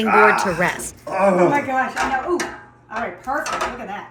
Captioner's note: grunting